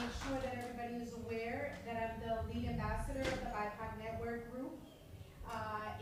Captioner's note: applause